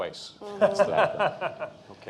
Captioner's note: laughter